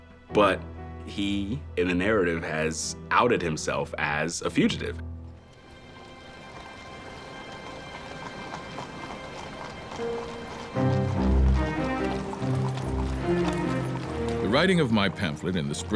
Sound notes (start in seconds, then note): 5.9 somber music; 6.4 hoofbeats clacking; 10.1 dramatic music